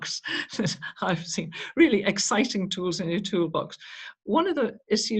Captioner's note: chuckles